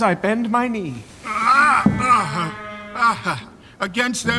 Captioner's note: groaning